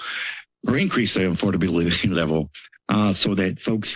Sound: chuckles

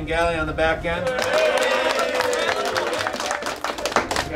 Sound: applause

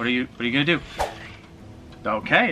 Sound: swoosh

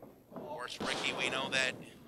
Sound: floor rumbling

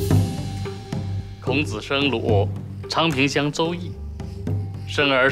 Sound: speaking Chinese

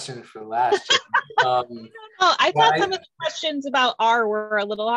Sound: laughs

